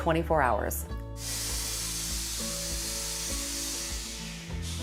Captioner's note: press hissing